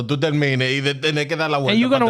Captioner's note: speaking Spanish